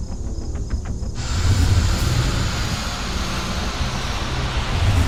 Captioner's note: forcefield humming and charging